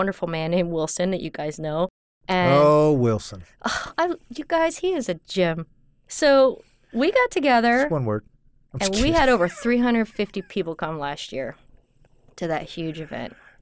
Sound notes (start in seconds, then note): 8.8 laughs